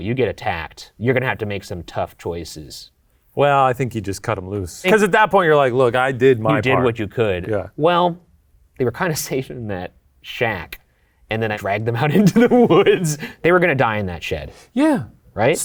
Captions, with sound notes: You get attacked, you're gonna have to make some tough choices. - Well, I think you just cut 'em loose. 'Cause at that point, you're like, "Look, I did my part." - You did what you could. - Yeah. - Well, they were kinda safe in that shack, and then I dragged them out into the woods. (laughs) They were gonna die in that shed. - Yeah.